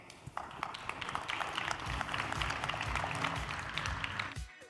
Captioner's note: audience applauding